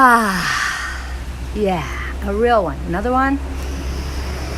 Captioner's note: inhale